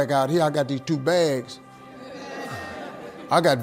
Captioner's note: audience laughing